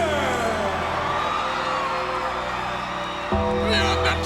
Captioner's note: audience cheers